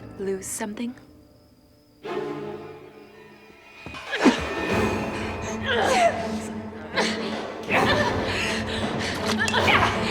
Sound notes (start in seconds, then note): 0.0 dramatic music; 4.3 groaning; 6.4 struggling; 8.7 dramatic music